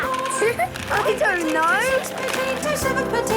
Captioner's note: laughing